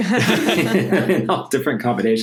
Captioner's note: laughs